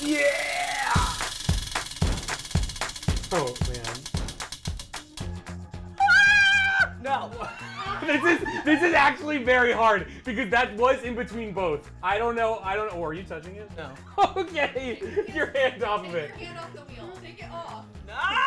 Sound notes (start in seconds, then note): 0.0 wheel clicking; 6.3 yelling